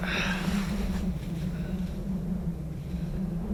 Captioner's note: wind howling